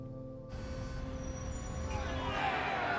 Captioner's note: traffic noises; protesters shouting